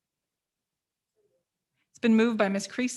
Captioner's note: mumbles